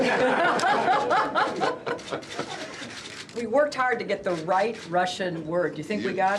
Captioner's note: all laughing